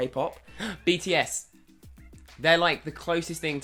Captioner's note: gasping